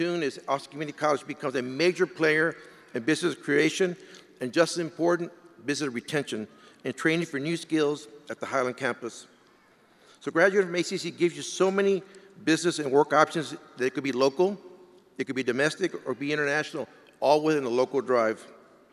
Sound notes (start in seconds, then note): none